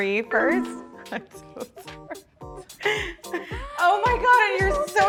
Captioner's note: gentle upbeat music; descending chiming tone